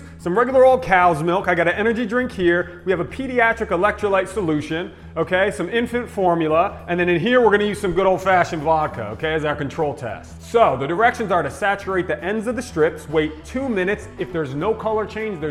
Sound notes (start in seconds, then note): none